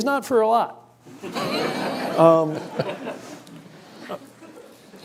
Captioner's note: laughter